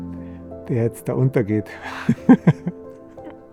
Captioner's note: lacht